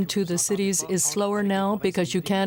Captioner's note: speaking French